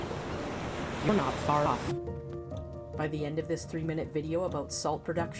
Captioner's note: ocean sounds